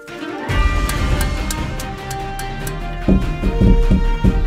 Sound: electricity buzzing; hammer clanking; bananas thud

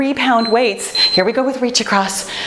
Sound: timer beep

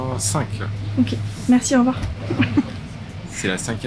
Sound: laughs

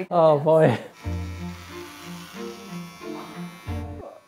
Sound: buzzing

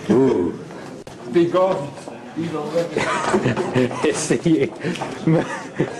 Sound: laughs

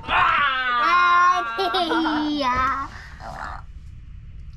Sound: shouts

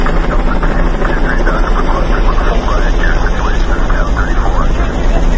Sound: helicopter sounds; muffled radio sounds

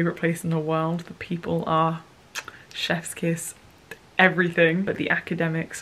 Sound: kissing

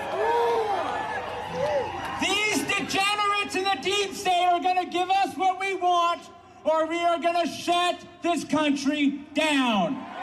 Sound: cheers

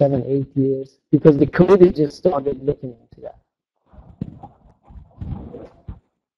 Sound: microphone issues

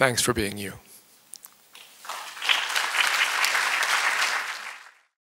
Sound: applause

